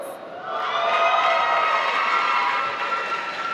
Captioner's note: applause